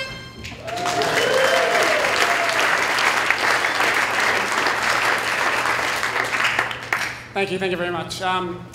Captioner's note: applause